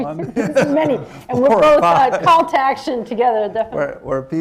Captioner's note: laughs